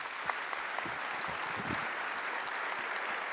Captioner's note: applause